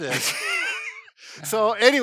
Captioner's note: both laughing